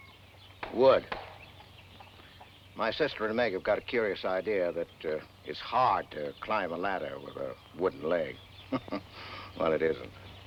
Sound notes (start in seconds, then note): 1.3 cane thuds; 8.6 chuckles